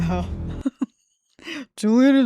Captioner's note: laughs